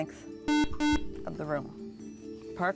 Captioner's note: buzzer